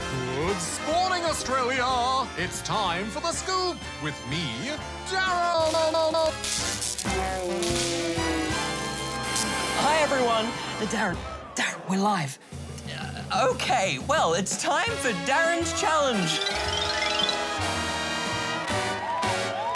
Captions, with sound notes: Good spawning, Australia! It's time for The Scoop, with me, DARRE-E-E-E... (VOICE SLOWS, STOPS) ..DARREEEEEEENNNN... Hi, everyone. (QUIETLY) Uh, DARREN! DARREN, we're live! Uh, OK. Well, it's time for DARREN's Challenge. (BIG BAND GAME SHOW MUSIC) (CHEERING, APPLAUSE)